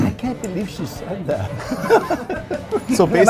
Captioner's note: laughs